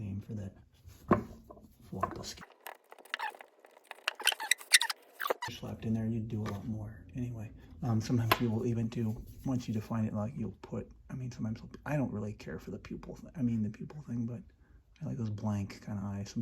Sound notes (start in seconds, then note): 2.4 fast forward sounds